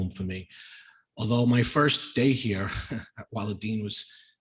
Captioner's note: chuckles